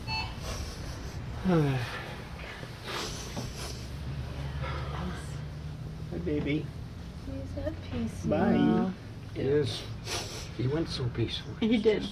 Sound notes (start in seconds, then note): 1.4 sighs